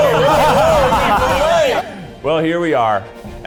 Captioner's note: laughing